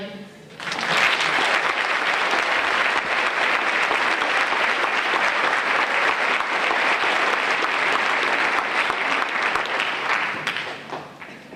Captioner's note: applause